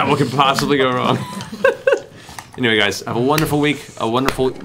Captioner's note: laughs